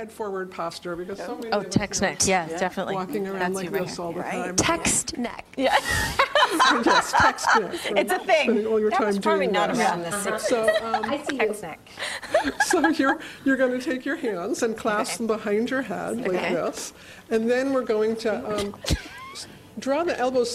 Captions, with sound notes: TO DO. THIS IS FOR BASICALLY CORRECTING HEAD FORWARD POSTURE. OR TEXT NECK. OH, TEXT NECK. TEXT NECK. YEAH. [ LAUGHTER ] IT'S A THING. EXCELLENT. SO YOU'RE GOING TO TAKE SOME CLASS BEHIND YOUR HEAD LIKE